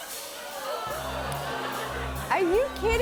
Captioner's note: audience ohhs